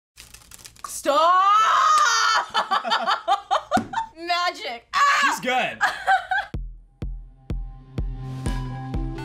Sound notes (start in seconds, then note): 2.0 laughs; 4.9 screams